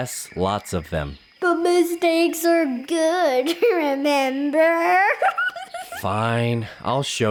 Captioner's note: laughs